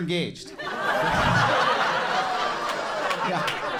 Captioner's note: audience laughing and clapping